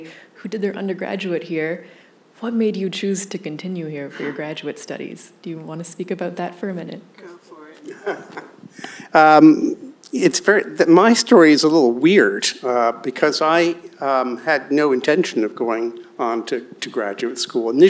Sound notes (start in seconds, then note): 7.8 laughs